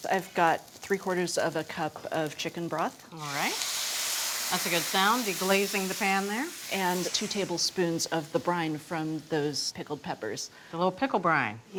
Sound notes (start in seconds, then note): 4.1 pan sizzles